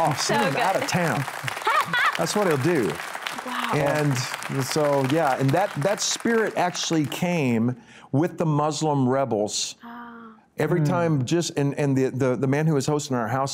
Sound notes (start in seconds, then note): 3.0 applause